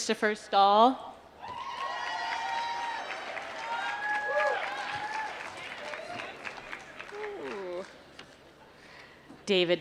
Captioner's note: applause